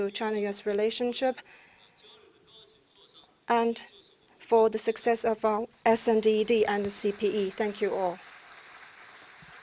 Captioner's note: applause